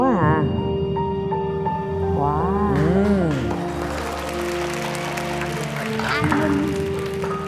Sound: cheering

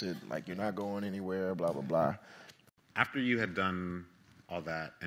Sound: none

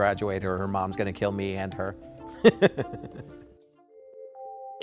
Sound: laughs

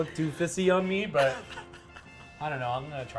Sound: laughs

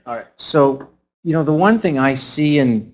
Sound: voiceover

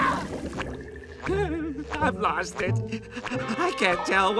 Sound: whimpering

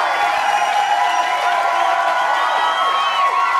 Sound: audience Cheers; they keep cheering

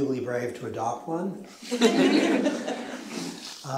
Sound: chuckling

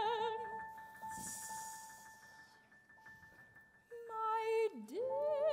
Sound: air whooshing

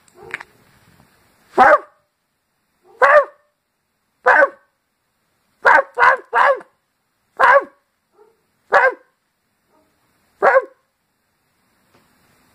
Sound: imitates the barking dog

